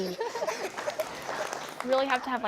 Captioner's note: applause